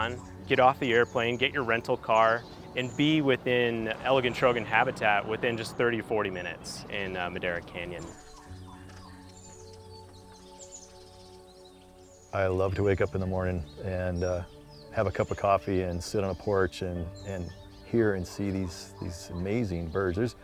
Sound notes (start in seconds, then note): 8.2 birds chirp